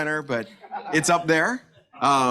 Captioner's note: audience laughs